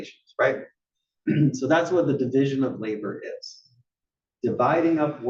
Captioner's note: cough